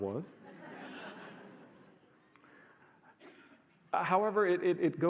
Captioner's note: audience laughs